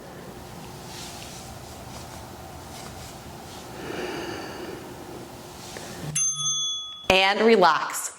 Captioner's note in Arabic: قرع الجرس